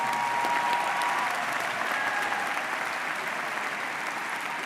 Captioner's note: audience applauds